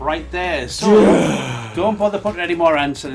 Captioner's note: sighing